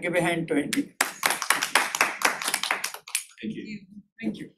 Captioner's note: applause